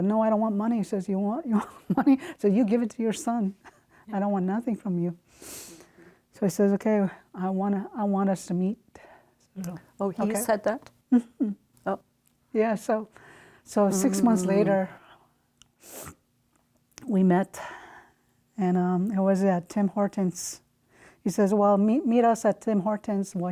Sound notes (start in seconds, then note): 16.6 sniffs